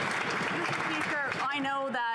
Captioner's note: some Applause